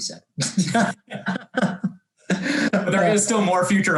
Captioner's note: both laugh